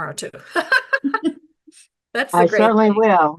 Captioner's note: laughing